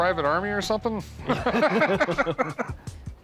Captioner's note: all chuckle